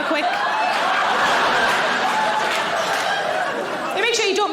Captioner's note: audience laughing